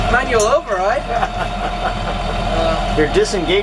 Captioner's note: laughter